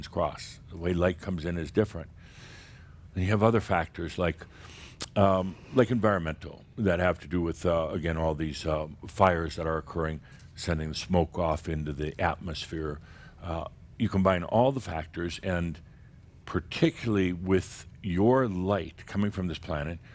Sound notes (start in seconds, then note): none